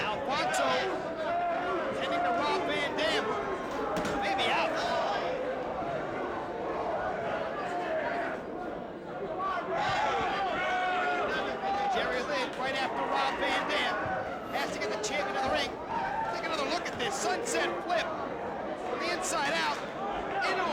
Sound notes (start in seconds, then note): 9.8 crowd jeering